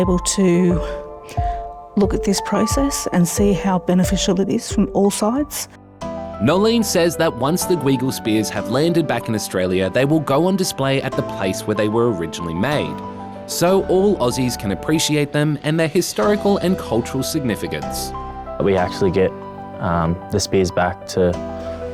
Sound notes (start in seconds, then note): none